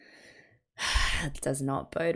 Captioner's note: big sigh